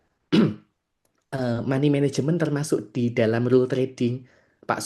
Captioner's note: berdehem